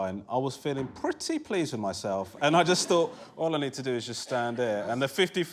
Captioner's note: laughter